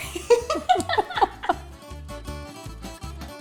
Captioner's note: laughter